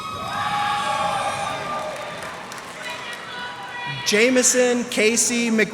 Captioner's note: cheers and applause